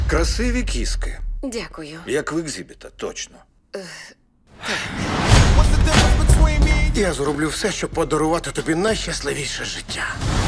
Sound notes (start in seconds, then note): 4.6 sighs